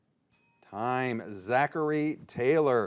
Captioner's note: bell dings